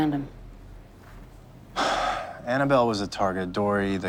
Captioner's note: sighs